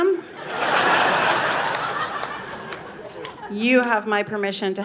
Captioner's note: audience laughing